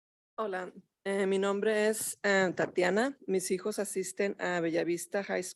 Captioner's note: speaking in Spanish